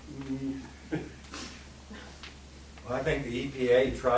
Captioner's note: laughing